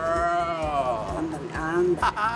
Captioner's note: speaking Spanish